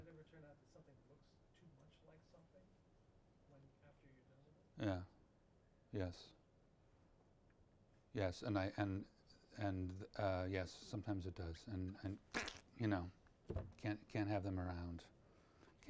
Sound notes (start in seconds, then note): 12.3 gushes throat